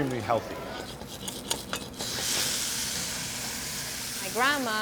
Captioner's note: pan sizzling